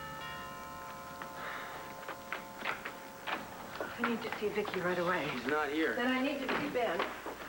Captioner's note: doorbell rings